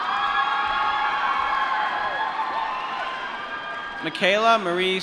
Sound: applause

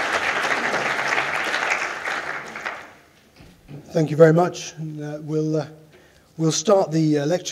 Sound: applause

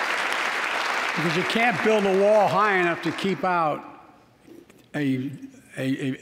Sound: applause

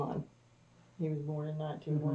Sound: laughs

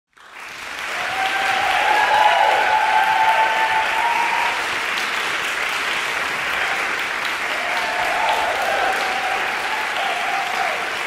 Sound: applause

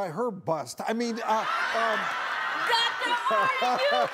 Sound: audience roars

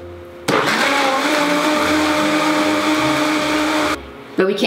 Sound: blender humming

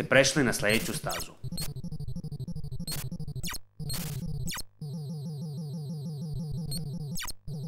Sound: sounds from the game

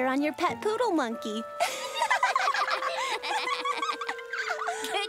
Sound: laughing

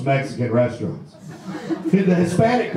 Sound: audience laughs

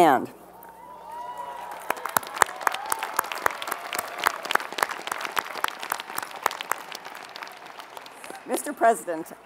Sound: applause

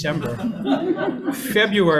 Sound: audience laughing

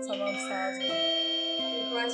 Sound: doorbell sound

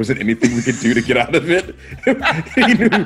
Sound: laugh

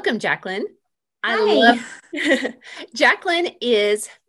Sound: chuckles

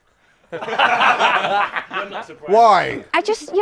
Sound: people laughing

